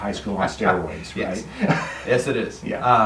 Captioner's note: laughing